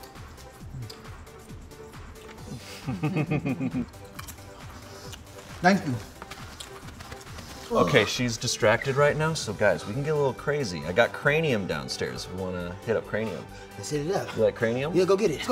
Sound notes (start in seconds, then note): 2.4 giggles